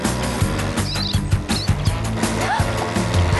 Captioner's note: chittering; gasps